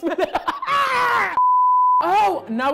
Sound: laughing

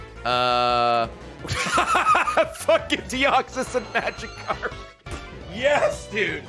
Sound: laughs

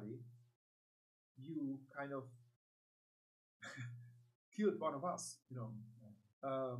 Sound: laughs

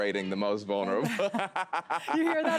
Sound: laughs

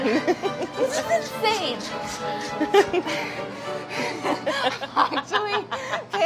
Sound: laughs

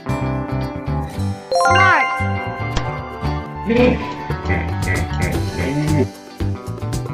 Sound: hippopotamus sound

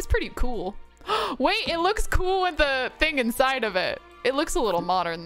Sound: gasps

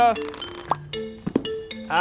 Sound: pop!

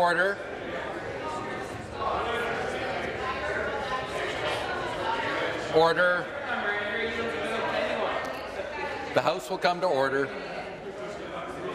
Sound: conversation din

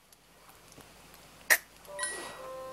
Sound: gameboy noise

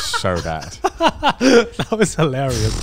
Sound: everyone laughs

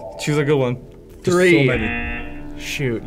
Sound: klaxon sounds

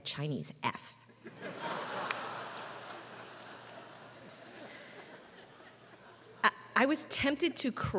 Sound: laugh

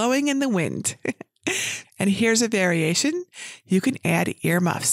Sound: chuckles

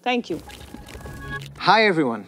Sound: transition sound effect; graphics whooshing

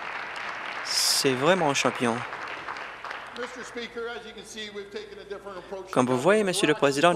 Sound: applause

